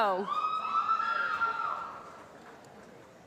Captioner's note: applause